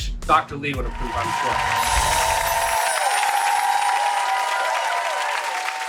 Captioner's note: audience applauding